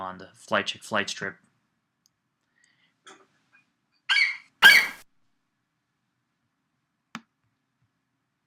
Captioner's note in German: Flight Adler kreischt